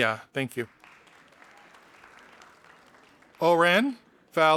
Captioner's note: audience applauding